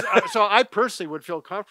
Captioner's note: laughter